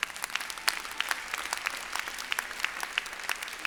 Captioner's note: applause